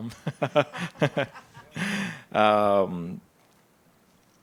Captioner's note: panelists laughing